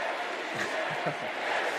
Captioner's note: cheers and applause; laughter